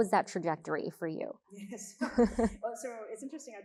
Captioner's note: both chuckling